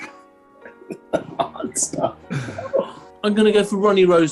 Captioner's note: sniggering; chuckling